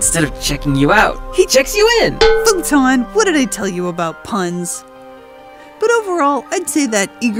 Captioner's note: clank